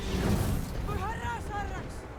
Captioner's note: speaking in foreign language